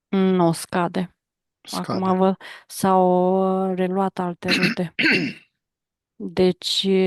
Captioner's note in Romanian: voce dreasă